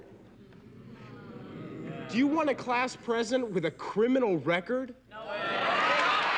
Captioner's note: audience cheering